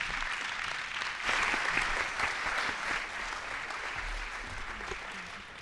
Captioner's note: audience applauds